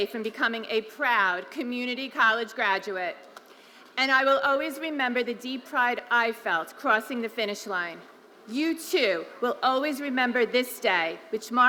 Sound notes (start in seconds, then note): none